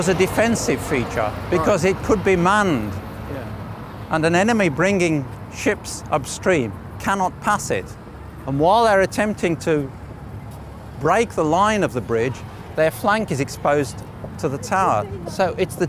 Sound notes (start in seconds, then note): none